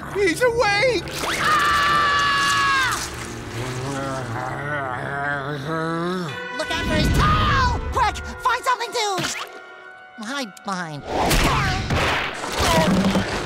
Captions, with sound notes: He's awake! [screaming] [feeble growling] Look out for his tail! Quick, find something to... hide behind. Ow! Oh!